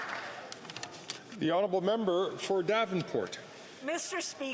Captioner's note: some Applause